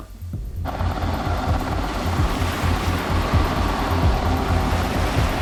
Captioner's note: helicopter blades whirl